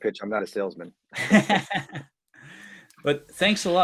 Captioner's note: laughter